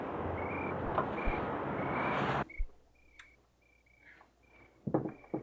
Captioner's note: crickets chirping